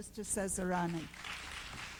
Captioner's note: applause